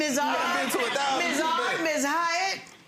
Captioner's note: audience laughing